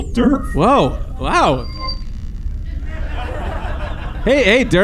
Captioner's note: transmission connects